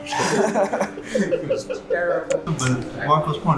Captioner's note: laughter; sarcastically